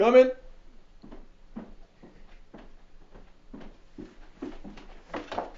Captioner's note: footsteps on stairs